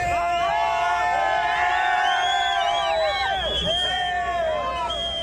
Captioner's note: crowd cheering